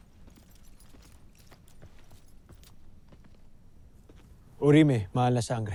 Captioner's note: footsteps tapping